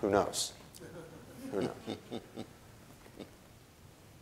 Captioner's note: audience chuckling